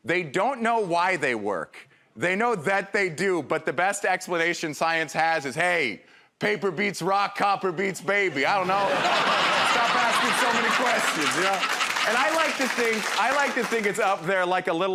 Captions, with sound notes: they don't know why they work, they know that they do. But the best explanation science has is, "Hey, paper beats rock, copper beats baby." I don't know. [ Laughter ] Stop asking so many questions. And I like to think it's up there like